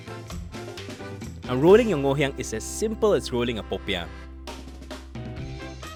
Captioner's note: voiceover